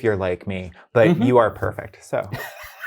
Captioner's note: guy laughing